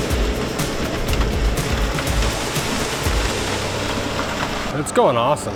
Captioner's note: concrete pours